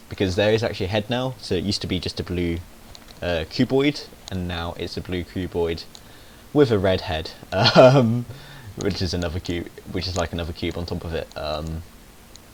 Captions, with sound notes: Because there is actually a head now, so it used to be just a blue cuboid, And now just a cuboid with a red head! [HE SNICKERS] Which is another cu─ which is like another cube on top of it.